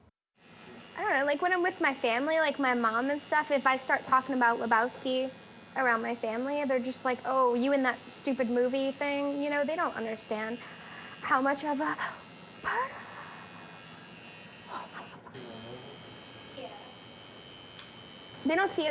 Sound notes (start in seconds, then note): 12.8 gasping; 15.1 whispering